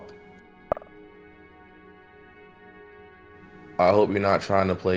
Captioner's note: message clicks